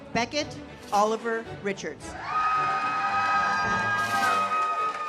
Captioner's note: audience cheers; uplifting music